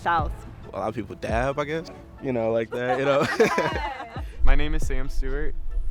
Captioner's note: laughs